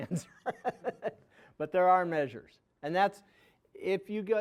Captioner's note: laughing